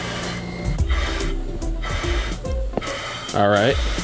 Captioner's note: steam hissing